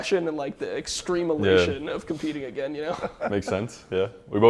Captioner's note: laughs